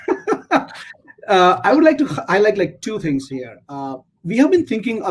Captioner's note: laugh